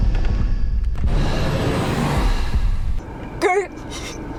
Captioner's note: ominous music; Evan whooshing